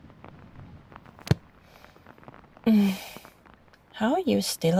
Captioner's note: fx: book close